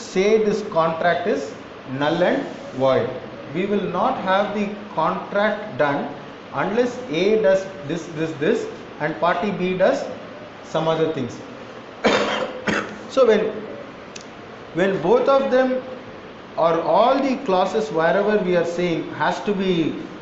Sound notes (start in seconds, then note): 12.0 coughs